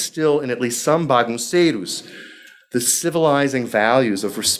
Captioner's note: speaking foreign language